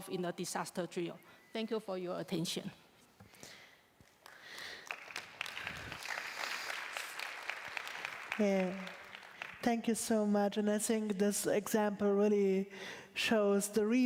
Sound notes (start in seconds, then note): 7.3 applause